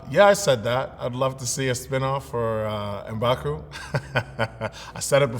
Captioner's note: laughs